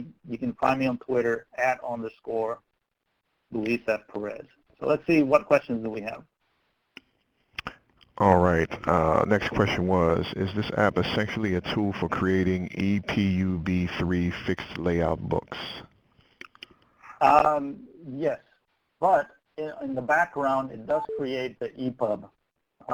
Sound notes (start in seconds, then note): 8.3 voiceover